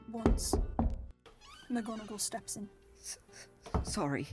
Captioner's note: knock, door opens